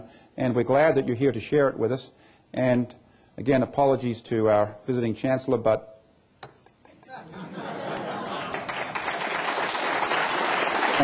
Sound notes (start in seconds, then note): 7.0 laughter; 8.2 applause